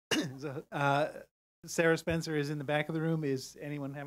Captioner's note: cough